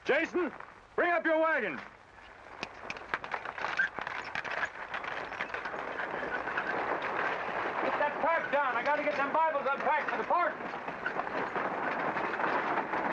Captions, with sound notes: - Jason, bring up your wagon! (carriage rattling) - Get that tarp down. I gotta get them Bibles unpacked for the parson.